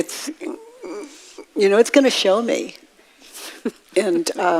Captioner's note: woman in white laughs